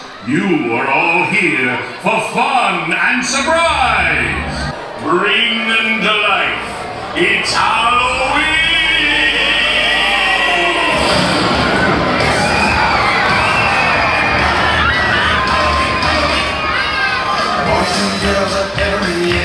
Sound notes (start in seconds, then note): 11.3 spooky rock music; 12.7 crowd screams